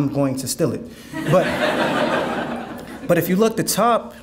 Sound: audience laughing

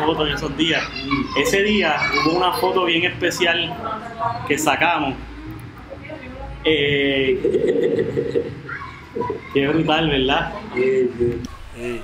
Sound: laughs

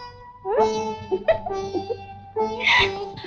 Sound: laughs

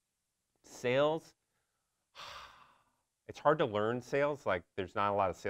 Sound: sigh

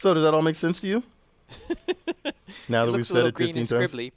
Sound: laugh

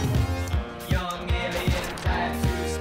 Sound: pew, Boom

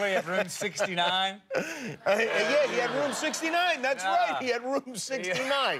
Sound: laughter

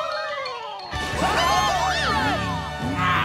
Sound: cheering

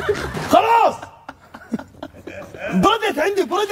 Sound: laughs

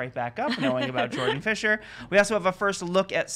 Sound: laughs

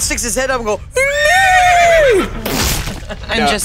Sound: horse neighs

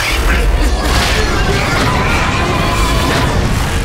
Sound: robots screaming

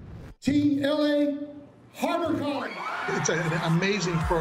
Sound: cheers

